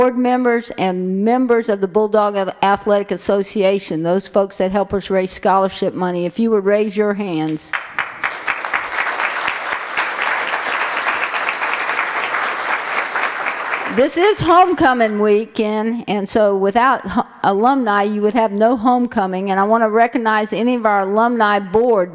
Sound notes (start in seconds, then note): 7.7 applause